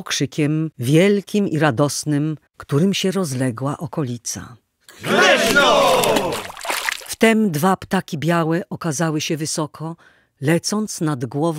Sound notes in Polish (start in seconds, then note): 5.0 okrzyk